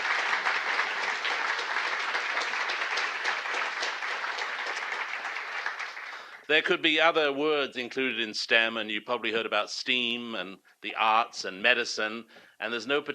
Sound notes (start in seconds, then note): 0.0 applause